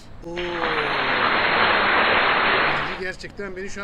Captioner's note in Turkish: Alkış